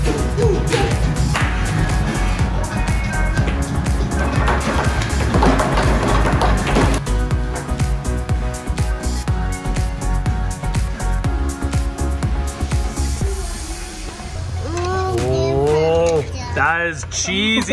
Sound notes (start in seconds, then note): 0.1 pop music; 3.4 banging loudly; 7.1 pop music